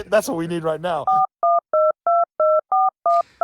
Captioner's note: telephone dialing and ringing